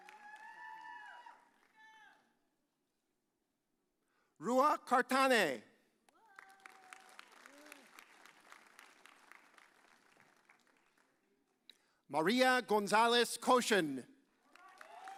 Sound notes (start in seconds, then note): 6.2 audience applauds; 14.6 audience cheers